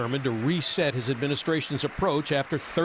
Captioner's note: applause